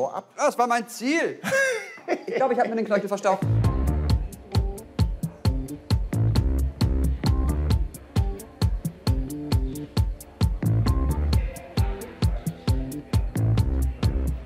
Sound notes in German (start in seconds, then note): 3.6 Lockere Musik; 10.6 Leise Stimmen